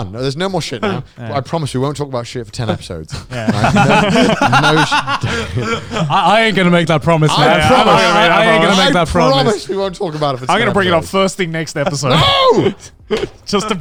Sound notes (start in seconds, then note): 4.4 all laughing